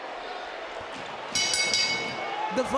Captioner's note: bell rings